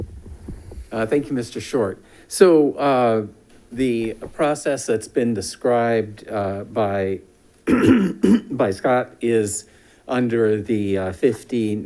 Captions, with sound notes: - Thank you. Mr. Short. So the process that's been described (clears throat) by Scott is under the 5019.5,